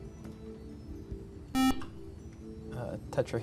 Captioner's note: buzzer